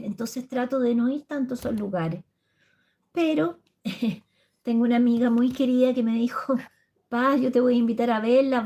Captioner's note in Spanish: risas